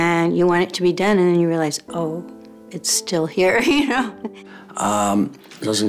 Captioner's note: small laugh